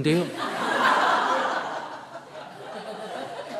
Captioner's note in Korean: 청중 웃음